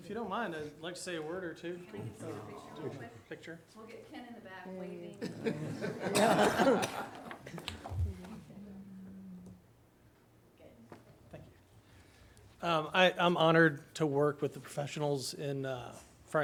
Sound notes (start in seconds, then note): 5.1 audience laughing